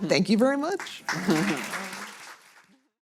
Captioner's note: audience applauding